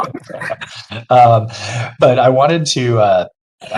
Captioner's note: panelists laugh